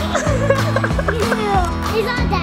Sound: laughter

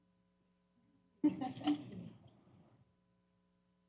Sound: laughter

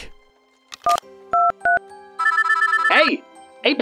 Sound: phone dialing

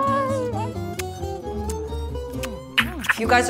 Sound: kissing

